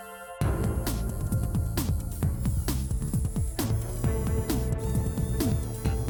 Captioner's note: robots whirring